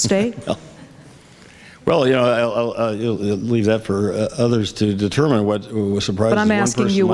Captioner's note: laughs